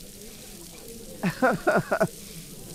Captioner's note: paper crinkling and audience chattering; laughing